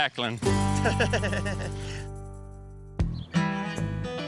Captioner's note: laughing